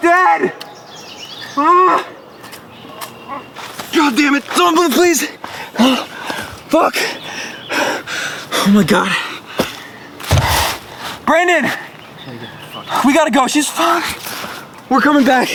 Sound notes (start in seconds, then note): 9.0 heavy breathing